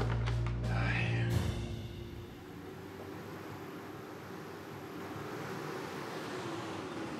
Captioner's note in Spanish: ruido del motor